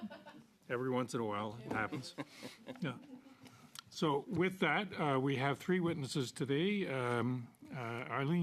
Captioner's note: laughter